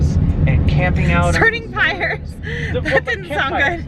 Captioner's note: laughs